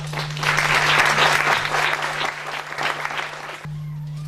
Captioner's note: applause